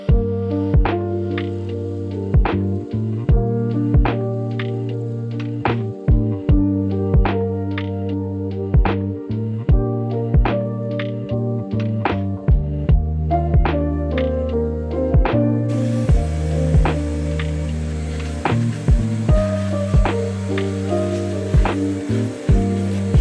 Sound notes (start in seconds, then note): 0.1 soft music continues; 15.7 vacuum whirring; 19.9 soft music continues